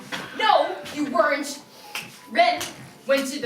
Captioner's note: narrator repeatedly snaps fingers